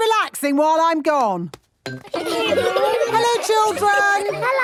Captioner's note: laughter